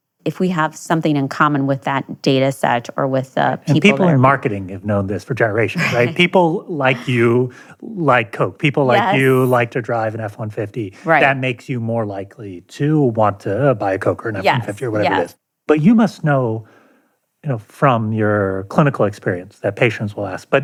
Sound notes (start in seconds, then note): 5.6 chuckles